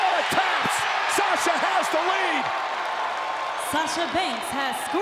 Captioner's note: crowd cheering